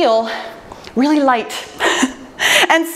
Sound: laughs

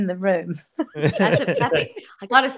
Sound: group laughing

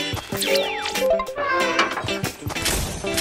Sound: upbeat instrumental music begins; machine buzzing; machine beeping; metals clanking

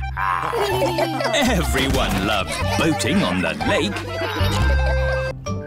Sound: chuckles; all laugh

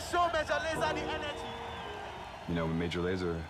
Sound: crowd cheering

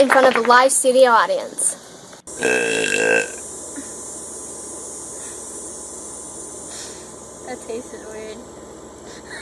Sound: burping

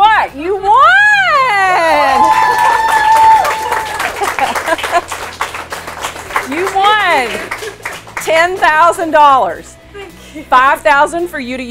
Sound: clapping

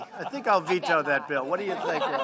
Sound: laughter

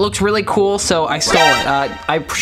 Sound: keyboard sliding

